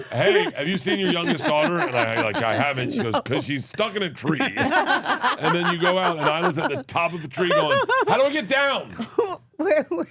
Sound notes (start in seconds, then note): 4.3 laugh